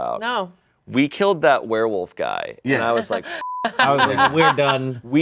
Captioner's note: beep